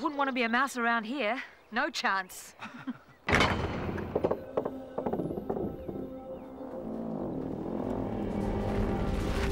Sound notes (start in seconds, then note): 2.6 chuckling; 3.2 doors creaking; 4.2 ominous music